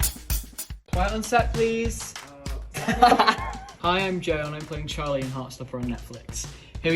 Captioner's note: laughs